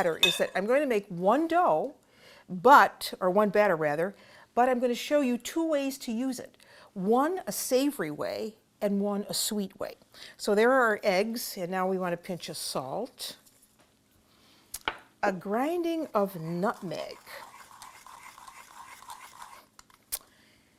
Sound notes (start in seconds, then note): 17.3 grinding